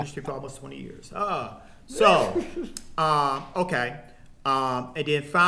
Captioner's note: laughing